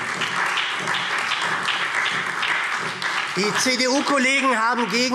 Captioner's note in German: Beifall SPD, Freie Demokraten und DIE LINKE